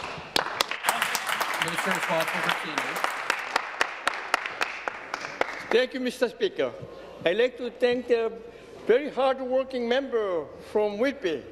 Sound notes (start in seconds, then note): 3.4 applause